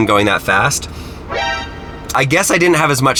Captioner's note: chimes